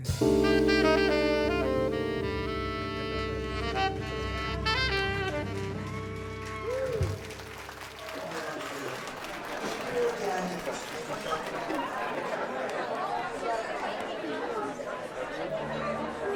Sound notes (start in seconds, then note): 0.0 song ends; 4.6 cheering and applause